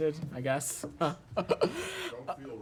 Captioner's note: laughter